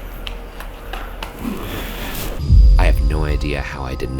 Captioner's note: pattering